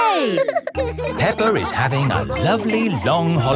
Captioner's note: all laughing